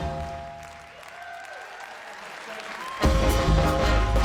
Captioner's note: audience applauding